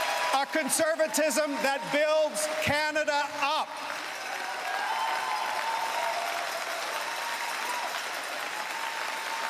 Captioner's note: cheering and Applause